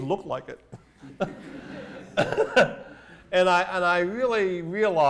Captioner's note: laughter